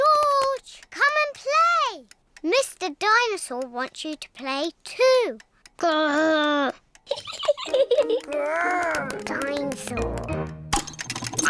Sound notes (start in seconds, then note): 7.0 laughs